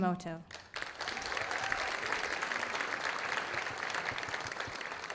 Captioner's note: audience applauding